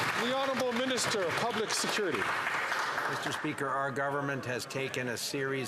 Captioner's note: some Applause